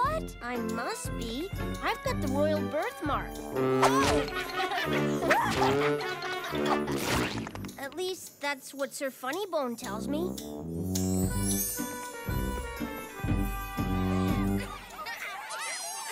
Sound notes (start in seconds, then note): 6.5 pies splat all over; 14.2 children laugh and play